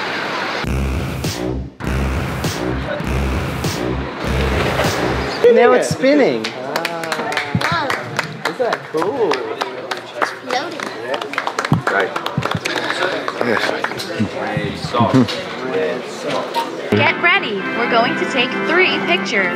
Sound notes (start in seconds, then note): 6.7 applause; 11.3 more appause